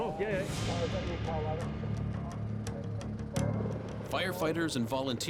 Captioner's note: chattering continues